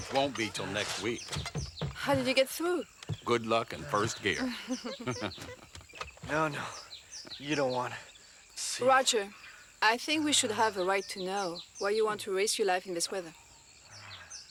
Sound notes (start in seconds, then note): 4.9 laughs